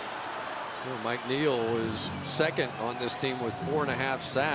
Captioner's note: crowd cheering